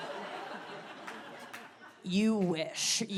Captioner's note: audience laughs and claps